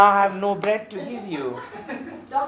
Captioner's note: laughter